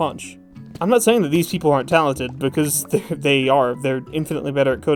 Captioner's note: scoffing